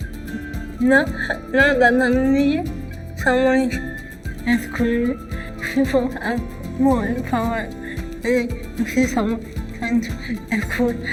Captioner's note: speaking English